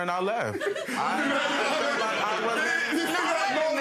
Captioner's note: laughing